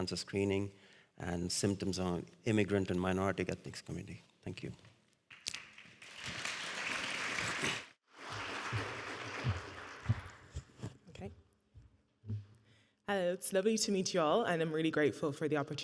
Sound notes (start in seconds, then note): 5.8 audience applauding